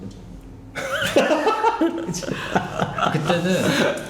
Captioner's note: laughing